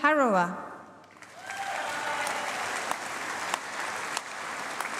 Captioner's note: applause